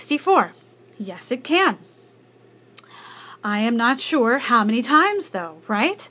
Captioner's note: deep breath